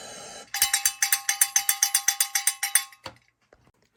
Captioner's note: bell chimes